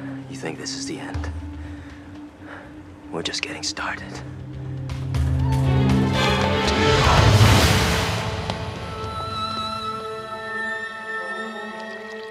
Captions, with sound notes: You think this is the end? We're just getting started. [splash]